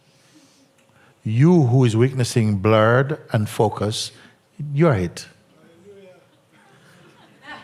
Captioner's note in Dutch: gelach